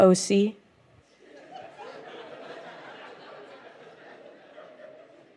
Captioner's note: scattered laughter